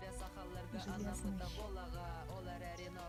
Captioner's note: Russian